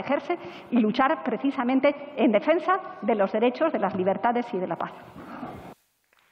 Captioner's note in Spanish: Aplausos